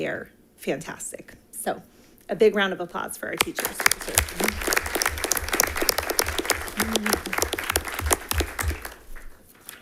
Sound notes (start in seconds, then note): 3.5 attendants applauding